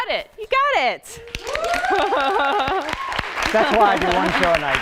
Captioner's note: applause and cheering